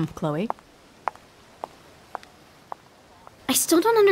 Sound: receding footsteps

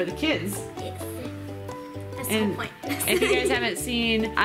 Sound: chuckles

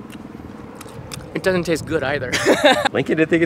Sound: laughs

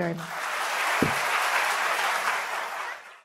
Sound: applause

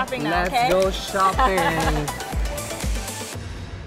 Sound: laughs

